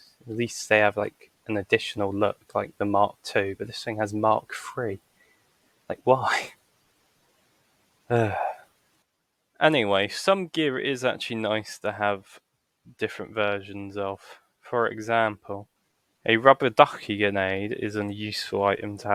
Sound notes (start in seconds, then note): 8.2 sigh